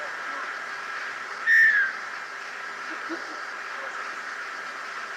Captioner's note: whistling, laugh